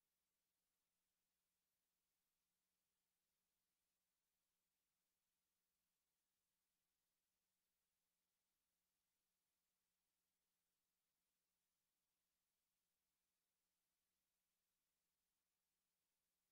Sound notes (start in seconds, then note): none